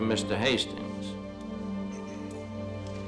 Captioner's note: clears throat